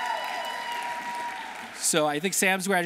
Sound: audience cheering; audience applauding

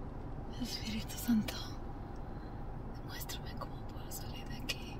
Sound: Janet speaks Spanish

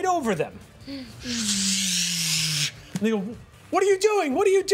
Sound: imitates motor revving

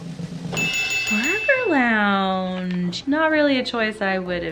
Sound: bell dings

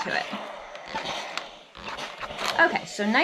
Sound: steam iron whooshing

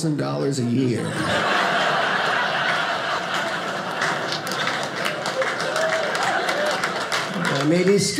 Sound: audience laughing

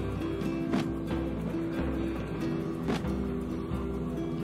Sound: cardboard rattles

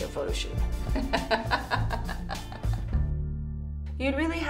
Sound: laughs

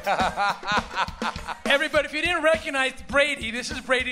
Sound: laughter

